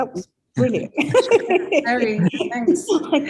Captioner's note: laughing